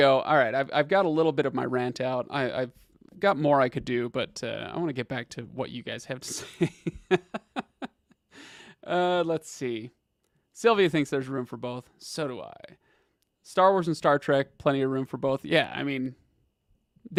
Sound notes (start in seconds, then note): 6.3 laughs